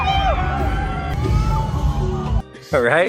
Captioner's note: fans yelling